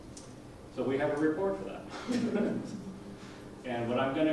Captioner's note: laughs